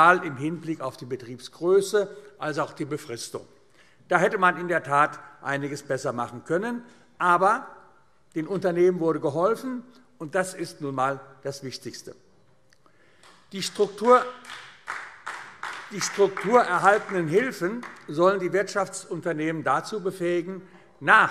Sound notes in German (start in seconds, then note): 12.1 Beifall AfD